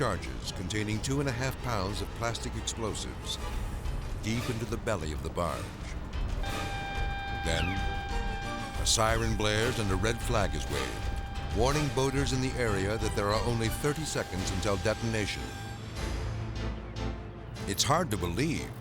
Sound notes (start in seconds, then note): 6.4 siren beeping